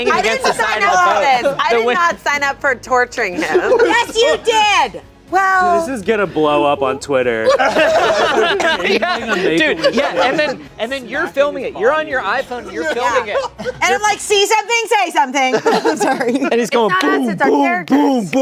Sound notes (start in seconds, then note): 7.4 everyone laughing